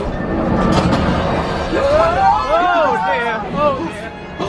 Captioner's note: everyone screaming